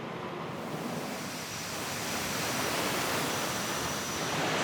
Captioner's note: water rushing